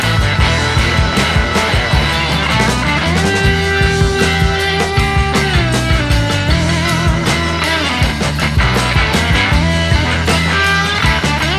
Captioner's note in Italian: Applauso